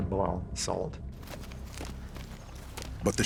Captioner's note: footsteps